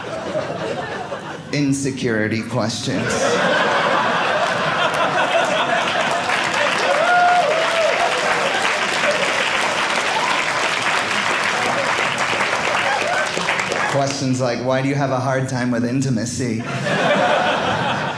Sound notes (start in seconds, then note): 2.8 audience laughing; 5.8 audience applauding